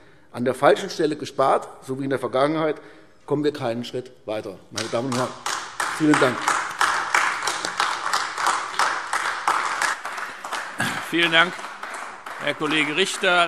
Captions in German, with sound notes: An der falschen Stelle gespart, so wie in der Vergangenheit, kommen wir keinen Schritt weiter, meine Damen und Herren. - Vielen Dank. [Beifall AfD] Vielen Dank, Herr Kollege Richter.